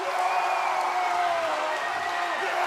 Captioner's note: cheers and applause